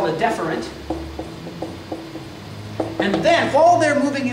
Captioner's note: marker clacks